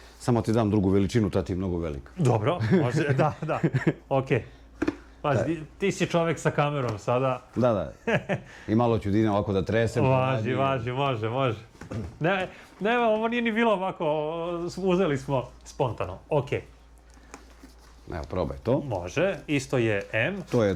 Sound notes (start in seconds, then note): 2.5 laughter; 8.0 laughs